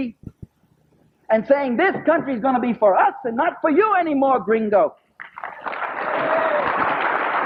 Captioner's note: applause